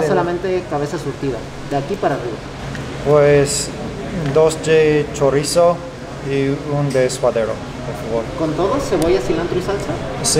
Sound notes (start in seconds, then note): 0.2 waiter speaks in foreign language; 3.4 speaking in foreign language; 8.5 waiter speaks in foreign language; 10.1 speaking in foreign language